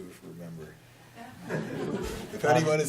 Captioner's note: laughter